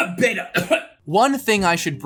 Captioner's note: cough